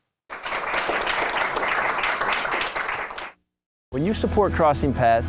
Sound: applauding

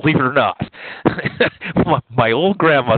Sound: laughs

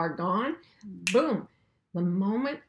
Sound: snaps fingers

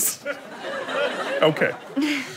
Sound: audience laughter

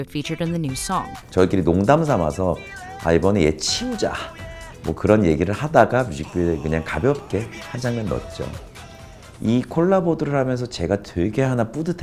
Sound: non-english speech

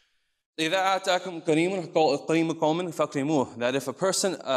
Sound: speaks in foreign language

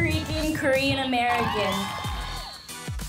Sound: people cheering

